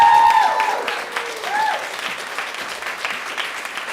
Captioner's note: applause